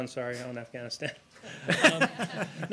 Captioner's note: laughter